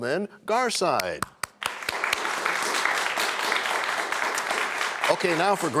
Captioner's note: applause